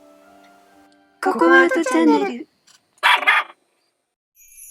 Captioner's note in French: Bow-wow